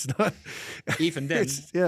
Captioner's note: laughs